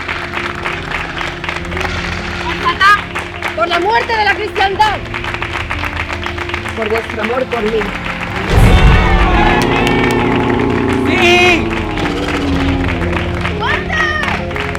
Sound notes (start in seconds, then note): 8.5 cheers; 14.5 applause